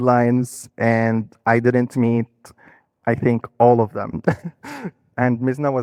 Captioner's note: laughing